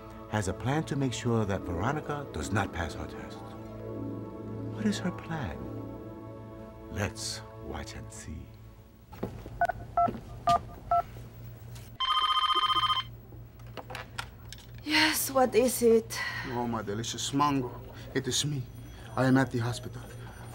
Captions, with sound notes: has a plan to make sure that Veronica does not pass her test. What is her plan? Let’s watch and see. [phone dialing] [phone ringing] Yes, what is it? Oh my delicious mango. It is me. I am at the hospital.